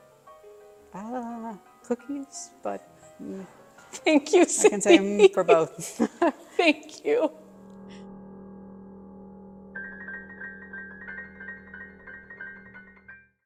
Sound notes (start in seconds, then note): 8.6 laughs; 9.7 gentle piano music